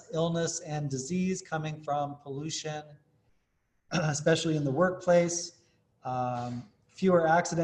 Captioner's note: cough